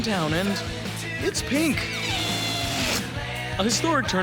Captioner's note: wheezing sound